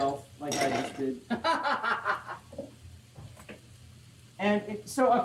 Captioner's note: laughs